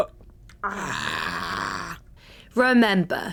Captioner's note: stressed noises; more stressed noises